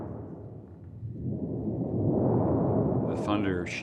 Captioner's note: shuddering